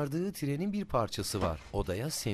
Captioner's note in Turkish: Kapı kapanma sesi